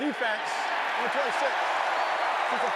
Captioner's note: cheering